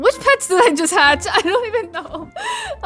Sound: laughing

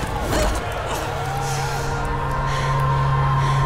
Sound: groaning; audience cheering

